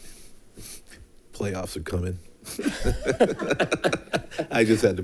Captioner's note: people laughing